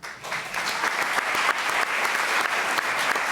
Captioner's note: applause